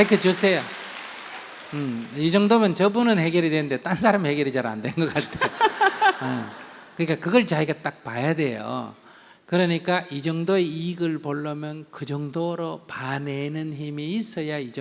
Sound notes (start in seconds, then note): 5.2 questioner Laugher